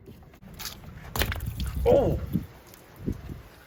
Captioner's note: fluid splashing